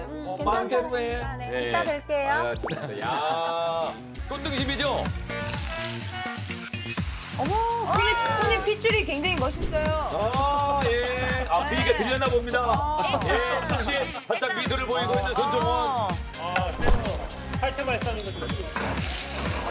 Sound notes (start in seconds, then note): 16.7 whoosh!